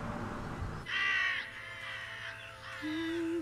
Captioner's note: crows cawing; woman humming